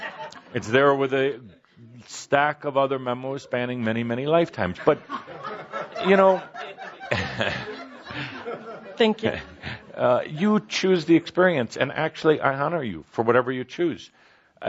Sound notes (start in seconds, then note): 4.8 more laughter